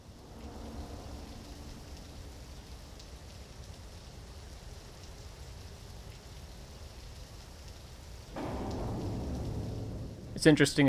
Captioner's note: audible Rain